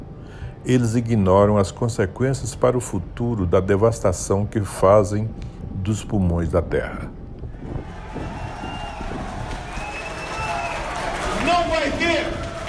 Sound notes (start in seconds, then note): 8.2 applause